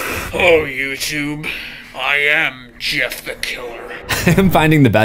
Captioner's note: static; laughs